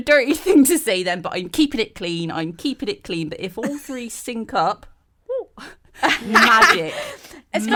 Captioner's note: all laugh